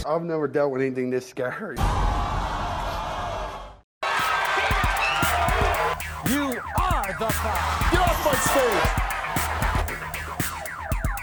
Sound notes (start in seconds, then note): 2.1 audience gasping in shock